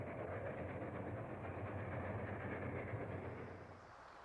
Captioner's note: train chugging